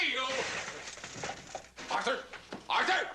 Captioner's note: clattering